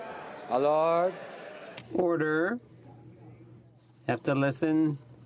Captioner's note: some Applause